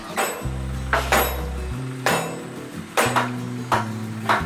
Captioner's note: sound of hitting with a hammer